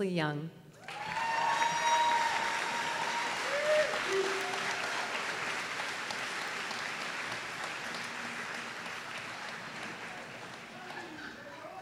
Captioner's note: applause